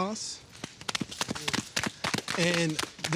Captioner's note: all applauding